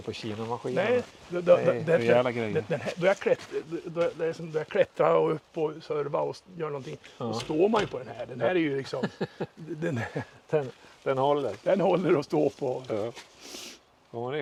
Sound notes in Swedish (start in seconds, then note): 8.8 skratt